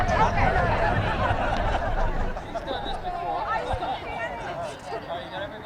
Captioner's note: participants laughing